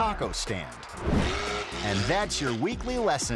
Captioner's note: air whoosh; motorcycle revving